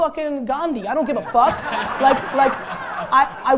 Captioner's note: laughter